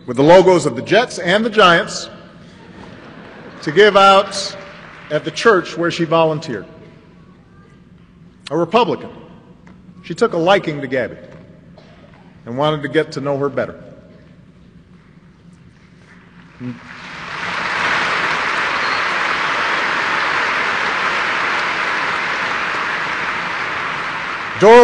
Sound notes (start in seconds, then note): 2.5 laughter; 15.4 applause